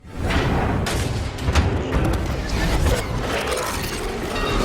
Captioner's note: industrial noises